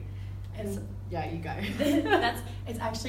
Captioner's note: laughs